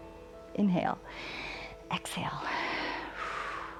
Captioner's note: exhales; inhales